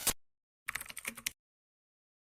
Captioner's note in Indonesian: suara mengetik